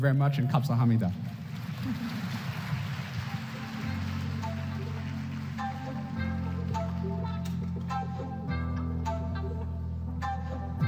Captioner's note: foreign language